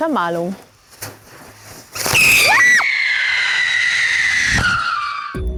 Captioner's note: Silvesterknaller pfeift